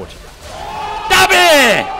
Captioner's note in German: Jubel